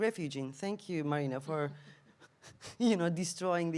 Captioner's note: laughs